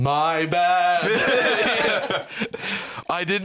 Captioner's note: all laughing